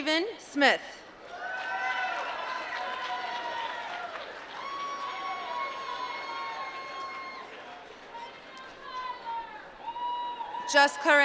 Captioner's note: applause